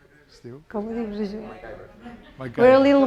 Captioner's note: speaking spanish